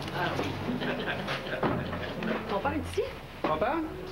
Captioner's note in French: Rires en sourdine